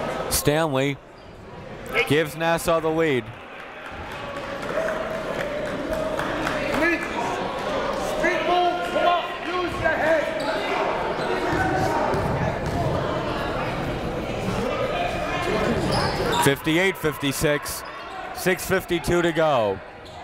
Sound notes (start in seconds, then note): 4.4 coaches yelling; 4.4 crowd talking